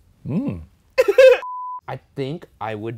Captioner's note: laughs